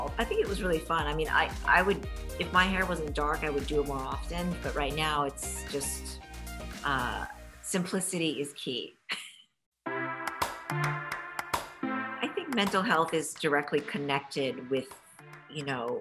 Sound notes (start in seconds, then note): 9.1 chuckles; 9.8 upbeat music